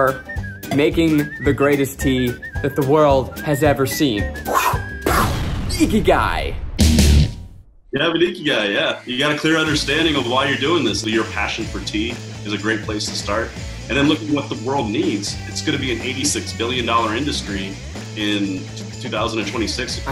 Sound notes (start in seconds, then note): 4.3 whooshing; 5.0 imitating explosion; 5.6 upbeat rock music